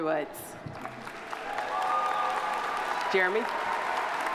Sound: audience applauding; audience cheering

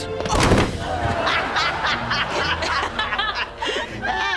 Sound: laughing

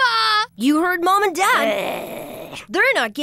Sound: growling

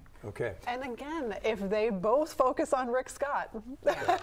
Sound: laughs

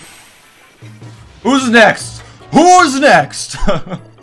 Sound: laughs

